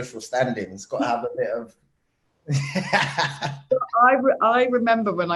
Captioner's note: laughs